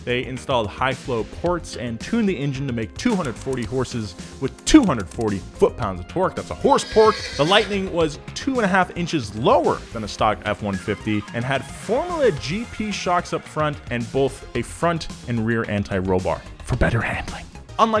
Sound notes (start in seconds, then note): 6.6 horse neighs